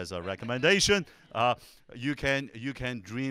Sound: audience laughing

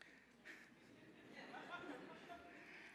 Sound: laughter

